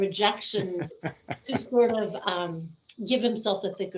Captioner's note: laughing